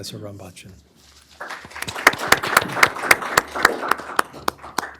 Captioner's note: applause